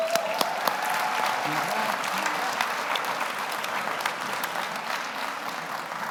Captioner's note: audience cheers; audience applauds